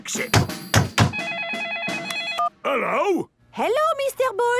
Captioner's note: phone ringing